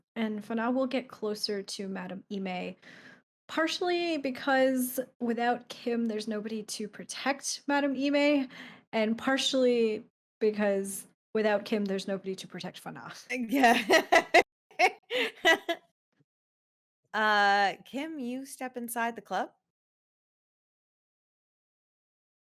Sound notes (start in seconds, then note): 14.8 laughs